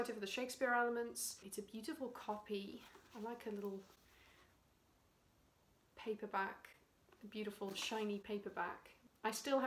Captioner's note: drops book